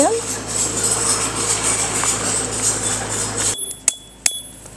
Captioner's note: an excavator is passing